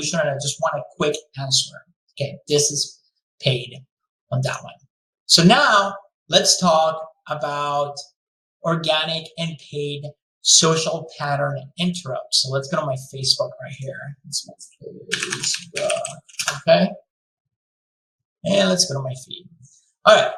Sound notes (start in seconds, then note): 14.5 mumbles while typing